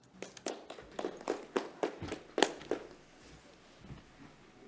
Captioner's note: audience clapping